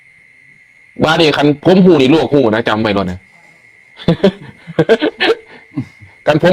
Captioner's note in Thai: เสียงหัวเราะ